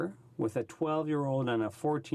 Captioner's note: speaking French